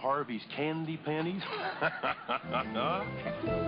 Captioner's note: laughs